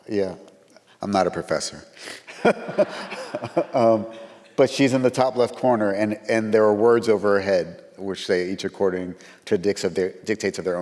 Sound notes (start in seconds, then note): 2.2 chuckles; 2.3 audience laughs